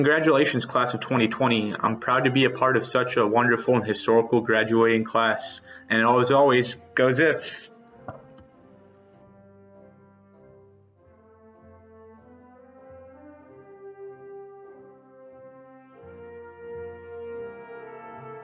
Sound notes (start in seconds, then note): 14.0 silence